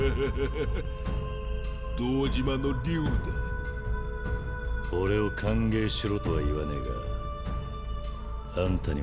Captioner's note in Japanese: 笑い